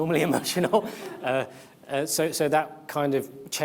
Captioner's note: audience laughs; chuckles